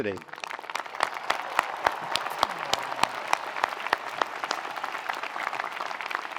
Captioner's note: attendees applauding; attendees cheering